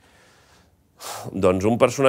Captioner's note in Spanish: suspira